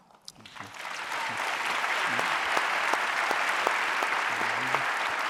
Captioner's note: audience applauding